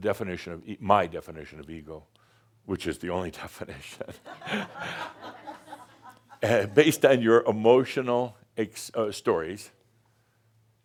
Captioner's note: a few chuckles